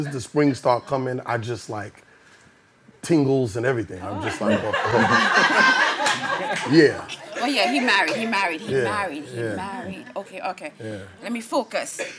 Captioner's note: audience laughing